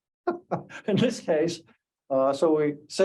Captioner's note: laughs